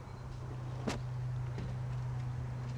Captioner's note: camera taps window